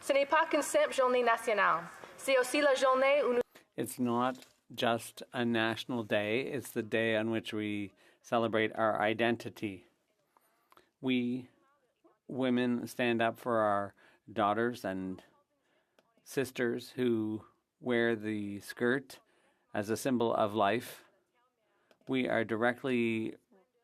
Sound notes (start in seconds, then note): 5.6 speaking French